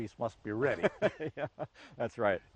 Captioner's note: both men laugh